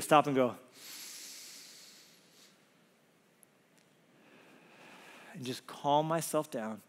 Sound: breathes loudly

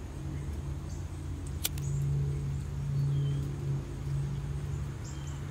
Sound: lighter igniting

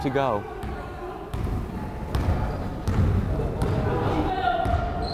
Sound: crowd chattering

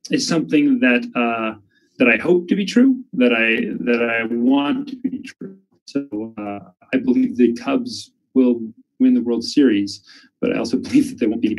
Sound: chuckles

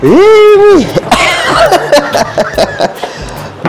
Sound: laughs

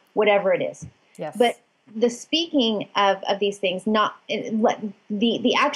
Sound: stammering

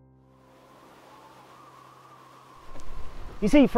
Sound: wind blowing

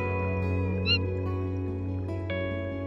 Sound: manatee squeaks

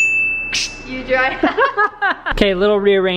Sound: ding; laughing

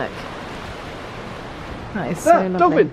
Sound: water sloshing

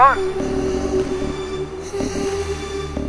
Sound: breathes heavily

